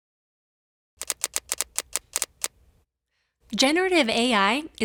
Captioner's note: rapid clicking